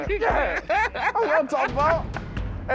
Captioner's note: laughter